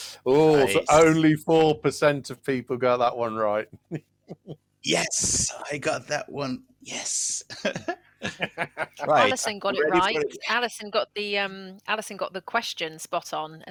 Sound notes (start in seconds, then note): 7.4 laughter